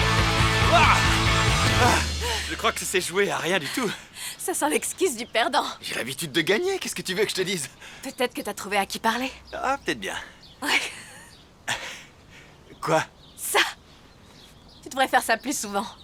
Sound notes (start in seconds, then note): 0.4 laughing; 0.5 sighs; 10.6 chuckling